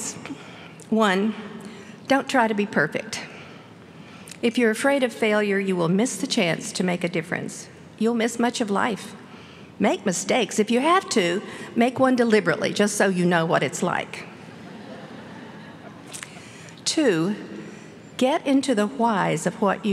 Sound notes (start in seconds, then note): 14.5 laughter